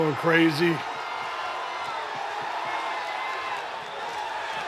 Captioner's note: crowd cheering